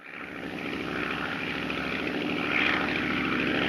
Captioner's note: airplane engine roaring